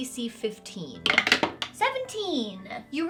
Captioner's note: dice rattling